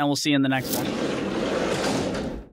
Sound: metal door clanking

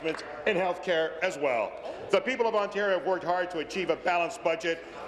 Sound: applause

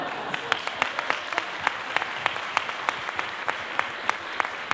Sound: applause

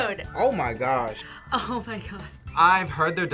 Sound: laughs

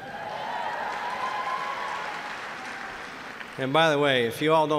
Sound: applause

